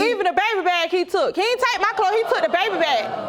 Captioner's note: audience groans